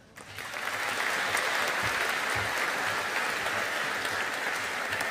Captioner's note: audience applauding